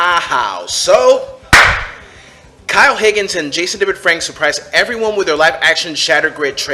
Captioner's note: loud clap